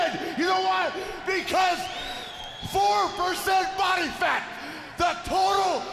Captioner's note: crowd cheering